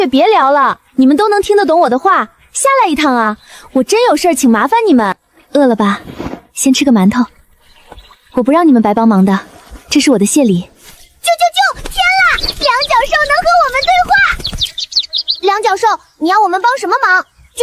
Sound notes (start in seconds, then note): 11.5 chirp chirp chirp; 17.4 chirp